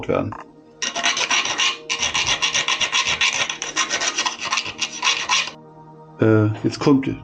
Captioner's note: filing noises